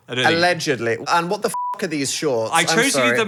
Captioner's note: beep